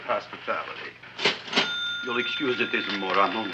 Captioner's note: cash register dings